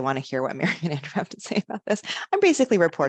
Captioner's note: chuckling